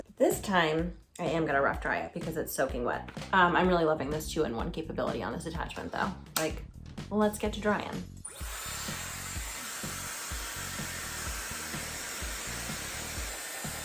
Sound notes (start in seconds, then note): 6.6 device clicking; 8.2 blower whirring